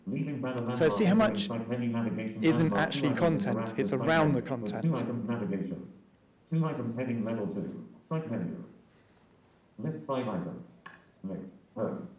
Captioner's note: sound of JAWS reader